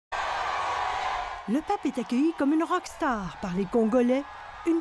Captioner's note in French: acclamations